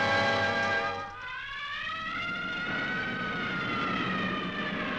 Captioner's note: sirens wailing